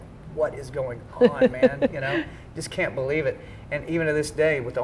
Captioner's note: laugh